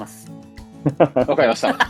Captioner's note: laughs